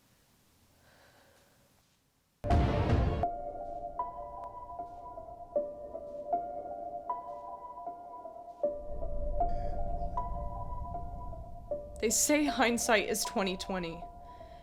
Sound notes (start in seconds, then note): 0.9 Nellie sighs; 2.5 ominous music